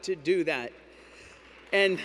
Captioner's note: applause